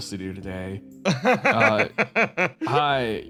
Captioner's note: laugh